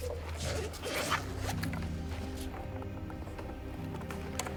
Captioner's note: zipper sliding